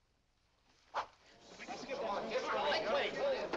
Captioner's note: excited crowd